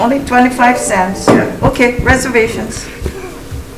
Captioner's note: gavel bangs